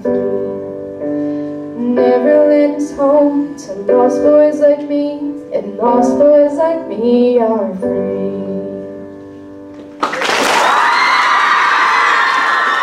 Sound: cheering

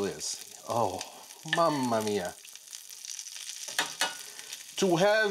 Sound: speaking in Italian

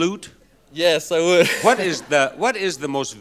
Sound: laughs

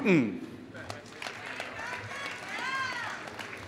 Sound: applause

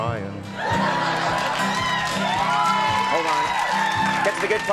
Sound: crowd laughs; crowd cheers

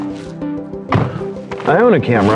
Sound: door shuts

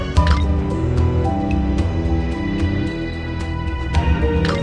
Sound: system Mechanical Sound

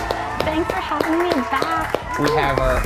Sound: audience cheering; clapping

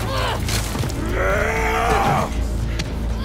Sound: Seraphite screaming

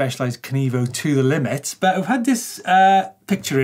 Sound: none

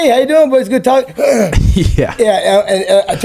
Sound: groans

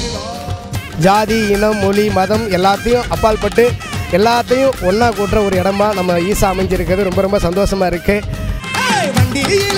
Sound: speaks in Tamil – not transcribed

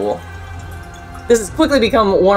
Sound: background music; quiet water sloshing noise

